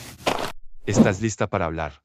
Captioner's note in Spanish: FX - Footsteps - On Multiple Dirt - Walk; FX - Whoosh - 03